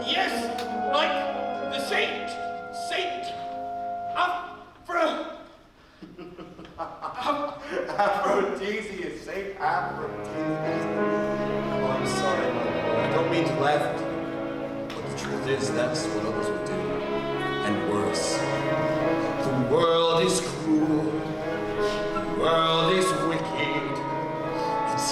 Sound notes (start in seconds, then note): 6.0 Frollow laughs